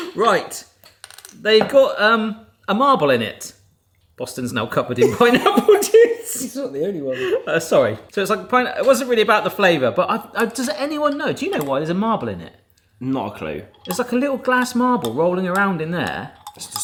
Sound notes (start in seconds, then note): 5.0 laughs